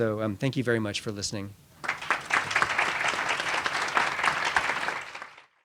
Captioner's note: applause